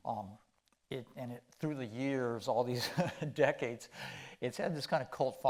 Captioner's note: chuckling